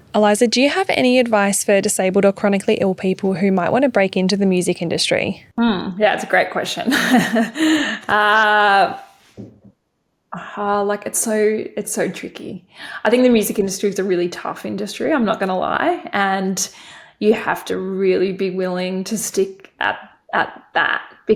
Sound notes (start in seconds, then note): 6.8 laughing